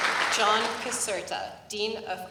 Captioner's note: applause